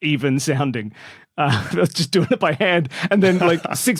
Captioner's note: laughs